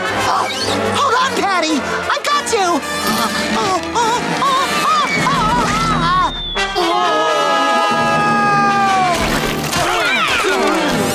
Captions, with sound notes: Hold on patty, I got you! [whimpering] Nooo! [screaming]